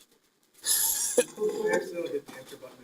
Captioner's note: scattered laughing